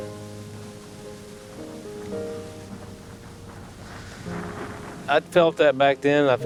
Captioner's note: thunder rumbling